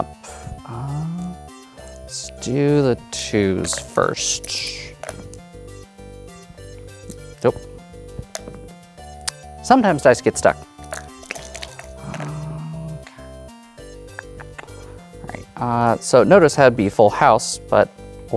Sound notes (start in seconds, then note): 4.5 dice rattling; 5.2 dice rolling; 8.1 dice clatters; 10.8 dice rattling; 12.1 dice rolling; 14.0 clicks tongue